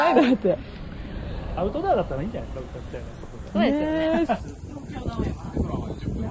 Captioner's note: laughs